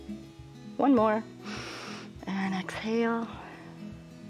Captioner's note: inhale